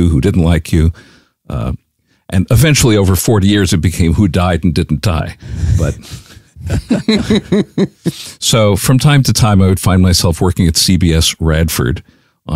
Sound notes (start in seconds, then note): 5.5 laughs